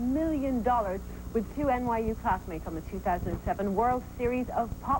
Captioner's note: none